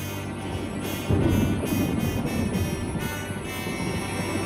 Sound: thunder

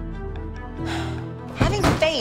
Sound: sighs

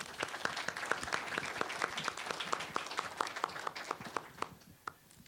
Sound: applause

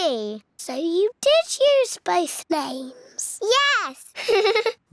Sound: laughs

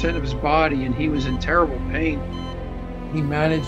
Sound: machine beeping

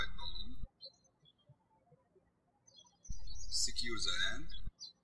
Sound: birds chirping

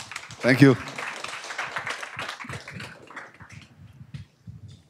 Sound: applause

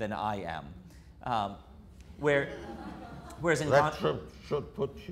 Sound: audience laughter

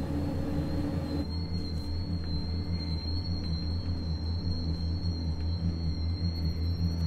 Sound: high pitched tone

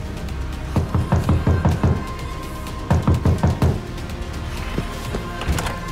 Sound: knock on door

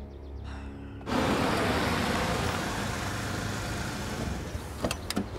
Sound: car sounds

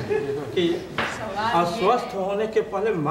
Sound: discussion in Hindi continues

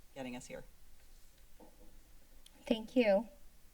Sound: silence

